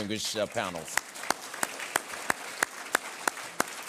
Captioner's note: applause